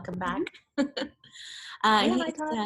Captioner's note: laughs